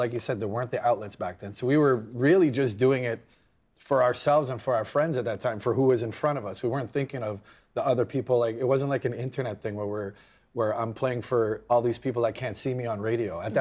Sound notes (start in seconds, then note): none